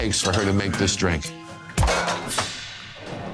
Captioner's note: clang